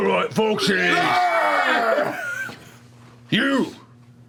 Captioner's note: cheering